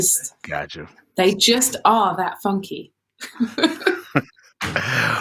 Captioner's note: laughter